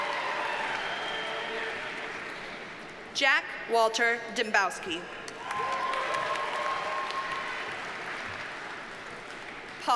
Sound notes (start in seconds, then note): 5.3 audience cheers and applauds